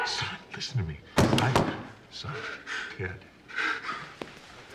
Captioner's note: none